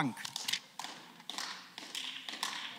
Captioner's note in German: Beifall